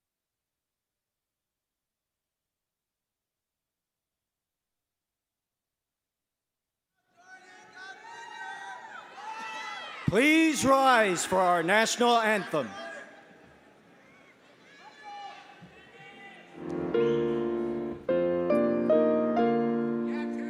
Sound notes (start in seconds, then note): 7.2 audience cheers